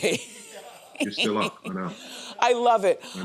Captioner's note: laughing